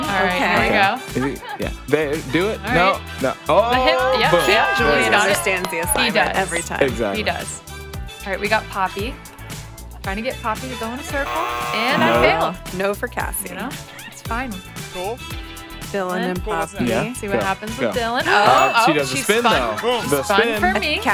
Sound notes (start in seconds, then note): 11.1 buzzer buzzing